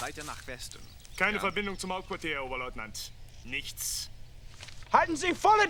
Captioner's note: speaking german